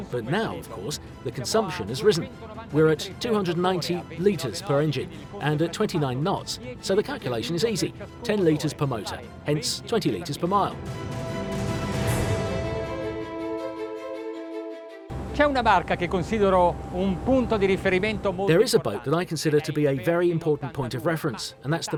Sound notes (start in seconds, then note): 11.0 dramatic music; 15.4 speaking in foreign language